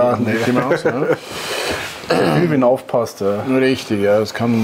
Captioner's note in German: lacht